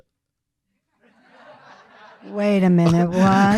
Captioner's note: audience laughing